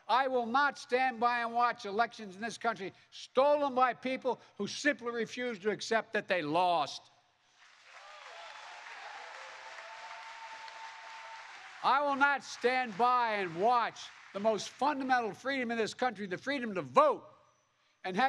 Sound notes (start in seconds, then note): 7.5 applause